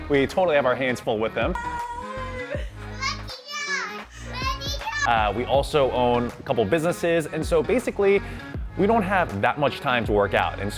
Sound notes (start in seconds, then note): 2.9 baby noises